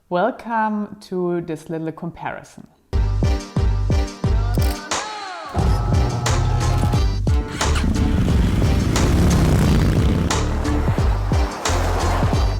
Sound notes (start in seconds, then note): 2.9 upbeat music; 7.3 motorbike engine revving